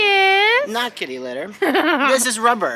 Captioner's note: laughing